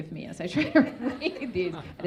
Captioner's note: audience laughing